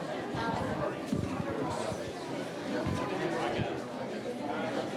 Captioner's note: people chattering